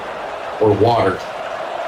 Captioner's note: crowd Noises